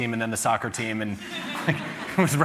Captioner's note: laughter